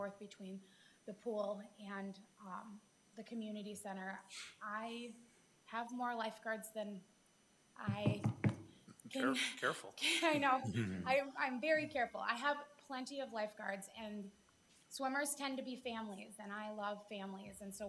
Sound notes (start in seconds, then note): 7.8 knuckles rapping; 8.1 both chuckling